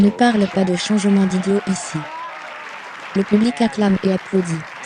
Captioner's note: audience applauding